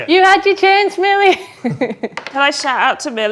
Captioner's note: laughs